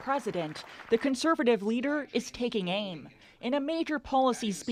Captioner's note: applause